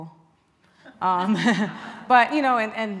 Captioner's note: laughing